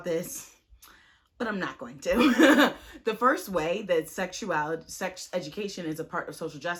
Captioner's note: chuckles